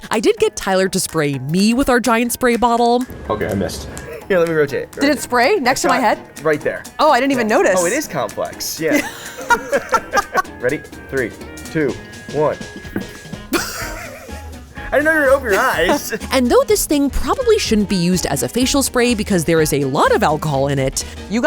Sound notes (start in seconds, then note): 8.8 laugh; 13.5 laughs